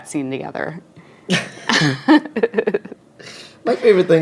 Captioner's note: laughing